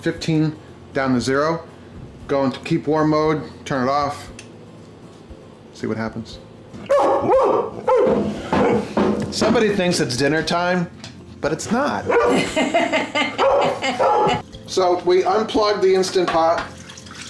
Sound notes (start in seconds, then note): 6.8 dog barking; 12.2 camerawoman laughing; 13.3 dog barking